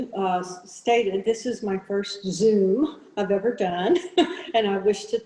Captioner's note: chuckles